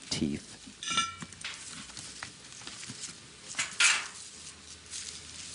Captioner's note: scraping and clattering